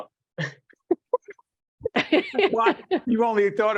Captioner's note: laughing